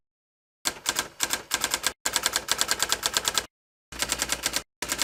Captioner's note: sound of teletype